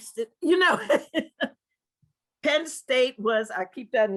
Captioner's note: laugh